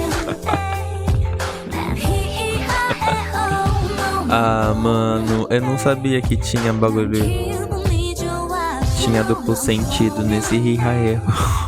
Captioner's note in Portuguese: risos